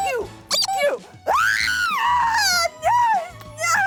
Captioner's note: screaming